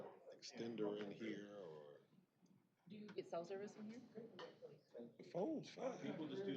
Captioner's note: off-mic chatter